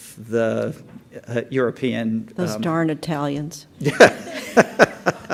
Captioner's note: laughter